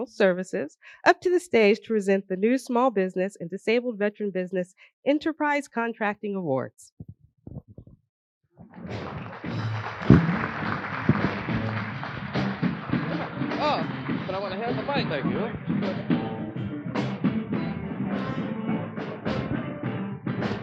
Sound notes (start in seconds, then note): 12.2 applause